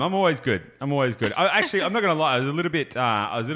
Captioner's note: laughing